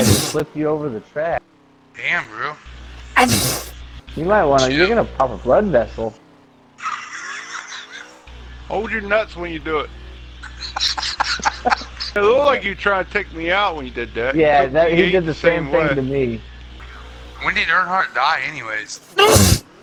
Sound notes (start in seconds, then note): 0.0 sneeze; 3.2 sneeze; 8.5 laughter; 10.4 laughter